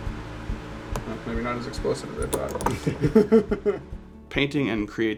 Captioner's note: laughing